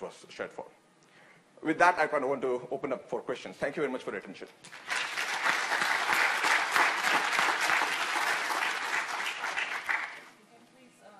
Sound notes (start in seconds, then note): 4.7 audience applauding